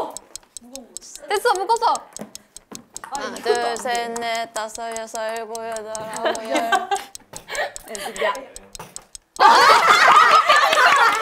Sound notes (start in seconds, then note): 2.9 A low-pitched echo; 5.9 laughing